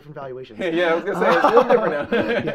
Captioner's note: both laughing